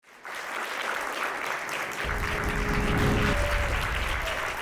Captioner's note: audience applauding